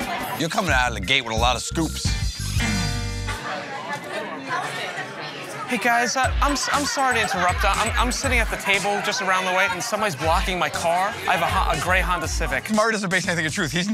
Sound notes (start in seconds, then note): 0.7 instrumental music; 4.0 chattering